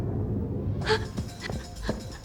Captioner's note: gasps